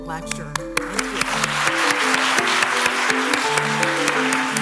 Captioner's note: applause